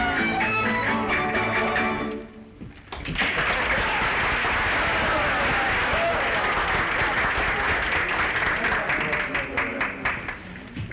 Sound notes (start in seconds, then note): 3.1 applause